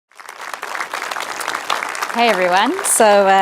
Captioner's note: applauding